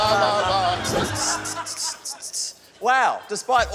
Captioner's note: imitates hi-hat